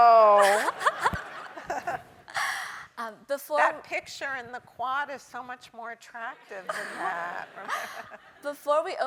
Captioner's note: laugh